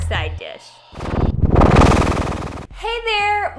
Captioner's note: whooshing